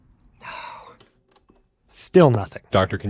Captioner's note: click; whispered anguish